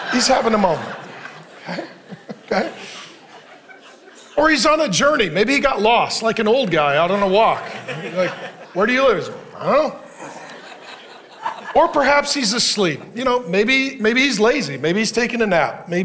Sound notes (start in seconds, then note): 0.0 chuckling; 10.4 congregation laughing